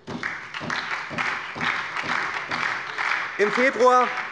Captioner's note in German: Beifall bei der SPD